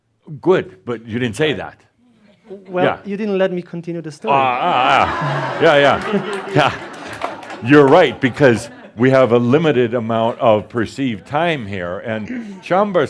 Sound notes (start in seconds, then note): 4.3 laughter; 7.2 some applause